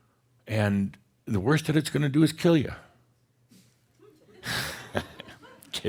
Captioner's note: chuckles